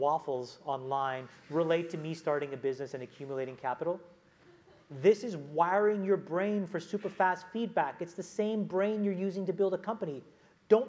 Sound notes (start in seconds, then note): 4.4 laugh